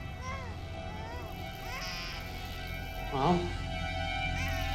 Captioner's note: baby crying